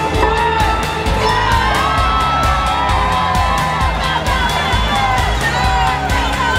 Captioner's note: cheering